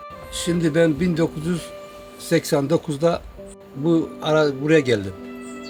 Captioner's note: speaks foreign language